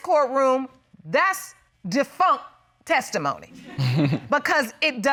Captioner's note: all laughing